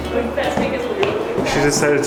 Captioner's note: speaking muffled